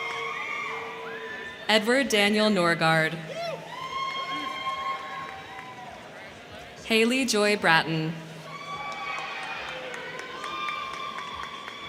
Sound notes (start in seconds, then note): 0.0 crowd cheering; 3.2 crowd cheering; 8.3 crowd cheering